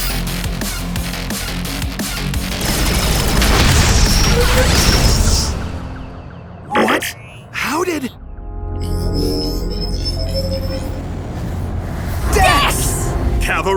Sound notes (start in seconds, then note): 2.5 loud explosions